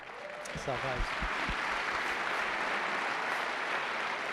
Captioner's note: audience applause